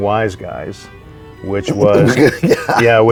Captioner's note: laughs